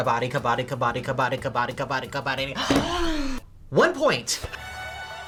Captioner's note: gasps; triumphant music